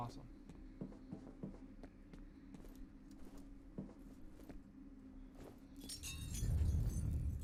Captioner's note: breaking tiles, ominous noise